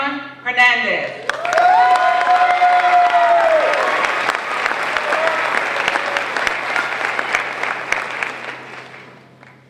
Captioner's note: applause